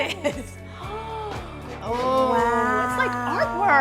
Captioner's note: both exclaim